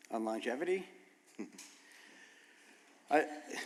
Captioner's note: chuckles